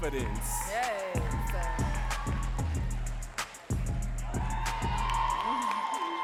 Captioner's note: audience cheering and clapping